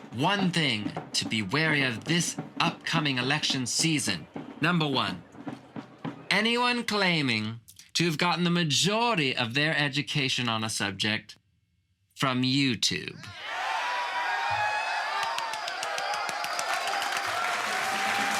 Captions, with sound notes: One thing to be wary of this up coming election season, number one. Anyone claiming to have gotten the majority of their education on a subject from Youtube. (Crowd cheering) (Rousing clapping)